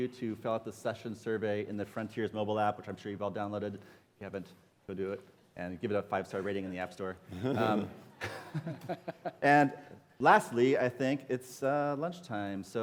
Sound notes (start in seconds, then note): 7.3 laughter